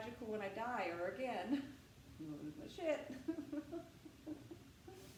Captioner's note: laughter